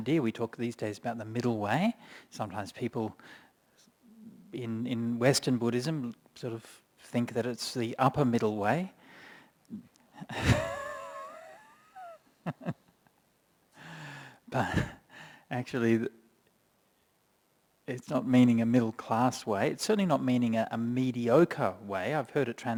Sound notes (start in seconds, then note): 10.3 laughs